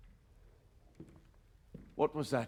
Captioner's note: footsteps